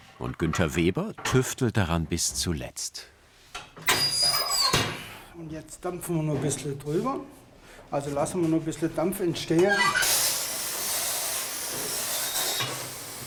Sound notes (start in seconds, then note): 3.9 squeaking; 9.9 hissing